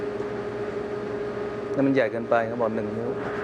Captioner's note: speaks in foreign language